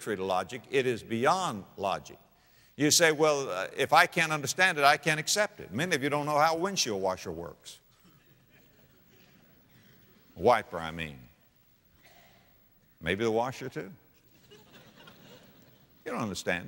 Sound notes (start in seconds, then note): 8.2 audience laughter; 14.3 audience laughter